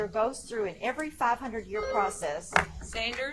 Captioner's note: buzzer chimes